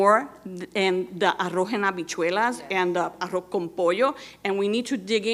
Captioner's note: speaking in Spanish